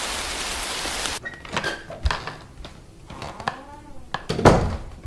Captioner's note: doorknob clicks. Door swings open, then closed